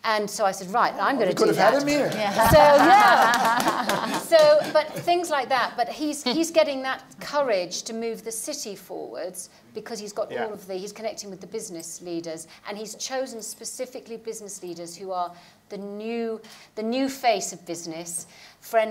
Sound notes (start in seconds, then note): 2.0 applauds